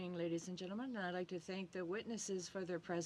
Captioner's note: speaking French